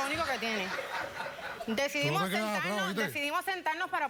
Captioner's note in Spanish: risas